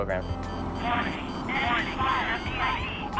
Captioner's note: automated Voice